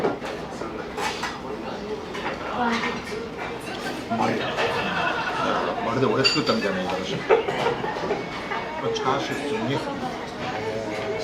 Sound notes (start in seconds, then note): 7.6 laughs